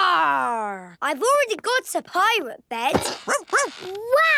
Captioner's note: barking